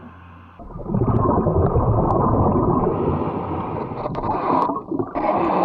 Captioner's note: water bubbling